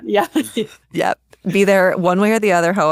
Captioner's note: chuckles